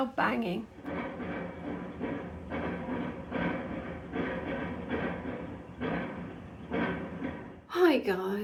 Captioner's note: loud metallic banging